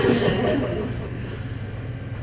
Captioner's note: chuckles